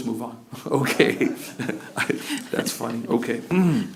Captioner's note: laughter